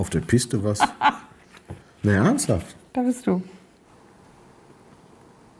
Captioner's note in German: lacht